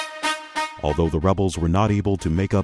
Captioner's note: voiceover